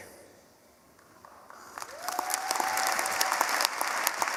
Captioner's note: applause